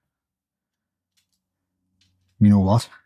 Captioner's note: silence